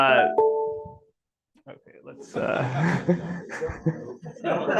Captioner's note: computer chiming